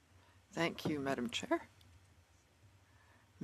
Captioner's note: speaking French